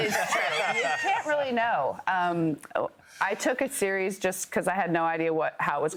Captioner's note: laughter